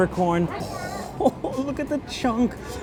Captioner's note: laughs